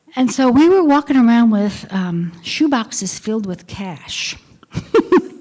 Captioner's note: laughter